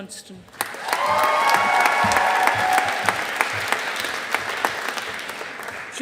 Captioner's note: audience applauding